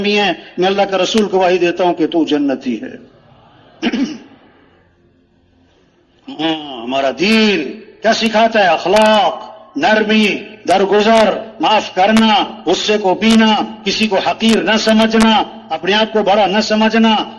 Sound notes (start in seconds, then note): 3.8 खांसी; 3.8 गला साफ करते हुए